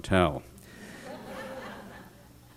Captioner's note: laughter